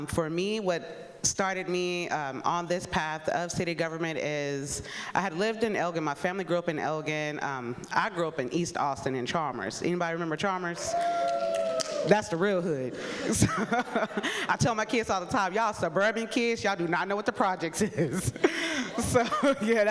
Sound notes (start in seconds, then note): 10.7 audience cheering; 12.9 laughs